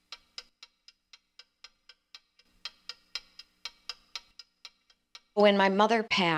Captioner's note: clock ticking